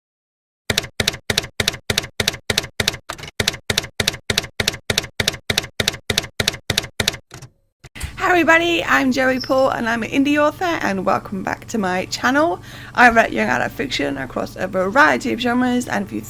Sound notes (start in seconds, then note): 0.7 typewriter keys clacking